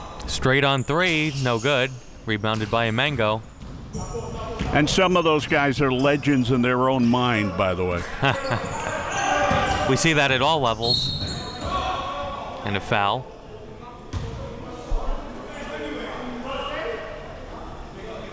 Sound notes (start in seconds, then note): 8.0 laughing